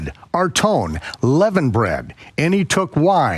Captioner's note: speaks in foreign language